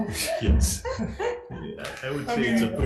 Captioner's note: everyone laughs